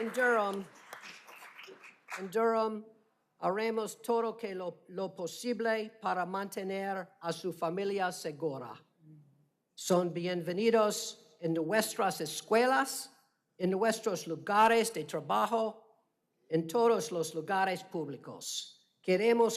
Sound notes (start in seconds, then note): 2.9 applause; 10.6 speaking spanish